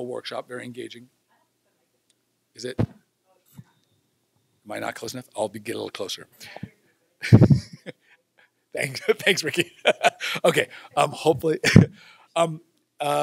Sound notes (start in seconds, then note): 2.7 tap; 7.2 laughter